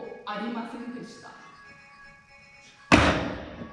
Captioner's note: oh, no. a cell phone rings!!